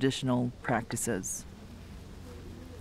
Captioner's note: background Foreign Language